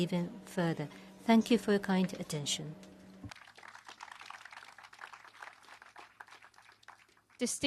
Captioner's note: applause